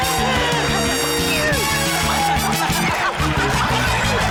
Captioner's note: laughter